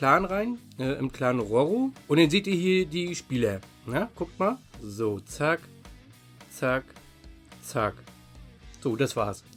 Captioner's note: snap, snap, snap